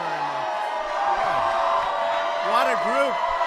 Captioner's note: applause